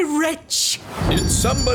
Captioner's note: whoosh!